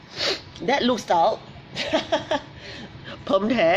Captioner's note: laughs